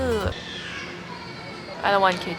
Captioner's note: a baby is crying